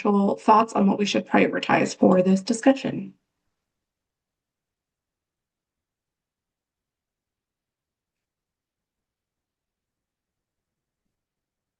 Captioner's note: pause